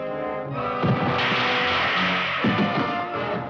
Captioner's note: crashing